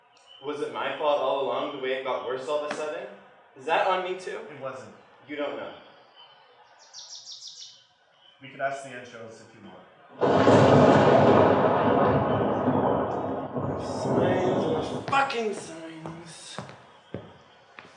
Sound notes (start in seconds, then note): 13.9 thunder